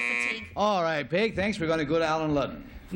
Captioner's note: buzzer